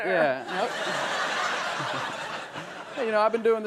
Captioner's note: audience laughs